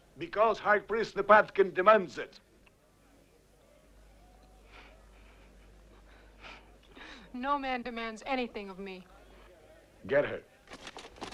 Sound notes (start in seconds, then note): 5.0 Hundra chuckles